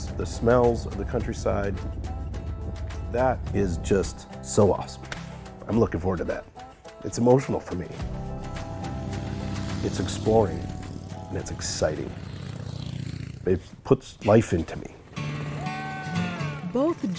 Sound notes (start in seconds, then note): 5.0 slaps leg; 8.1 engine rattles; 15.5 cheers